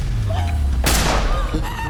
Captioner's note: gun firing; Michelle gasping